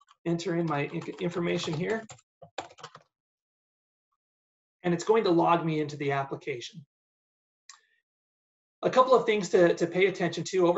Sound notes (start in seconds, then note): 2.2 keyboard clunking